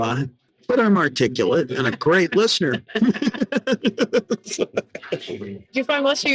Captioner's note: laughing